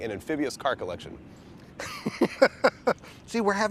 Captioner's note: laughs